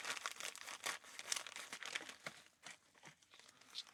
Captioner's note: plastic Crinkling